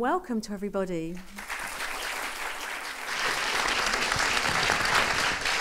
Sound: audience applauding

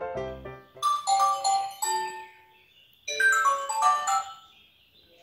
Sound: phone ringing

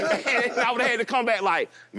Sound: all laugh

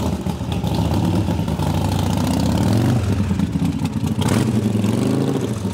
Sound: motobike revs

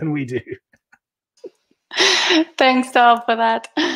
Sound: laughing

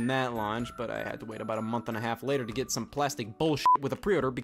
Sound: beeps

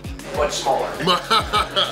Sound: male Voice; laughs

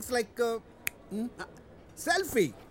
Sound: snaps finger

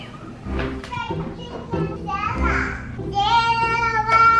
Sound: kids chattering

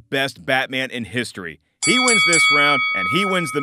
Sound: bell clangs

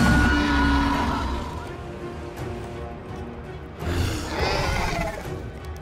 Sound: Scorpius Rex sounds; Scorpius Rex sounds

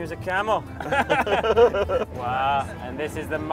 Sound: laughs

